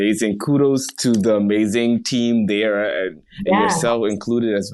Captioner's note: hands clapping